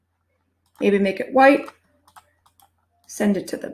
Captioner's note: mouse clicking